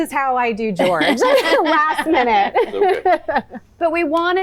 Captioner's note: laugh